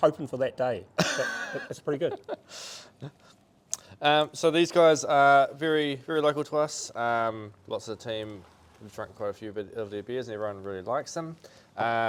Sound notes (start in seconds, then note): 1.0 speaker chuckles